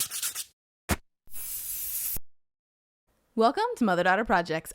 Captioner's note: tool scratching